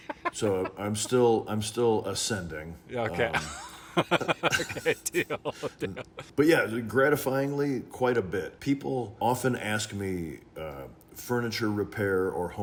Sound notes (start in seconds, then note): 3.1 laughing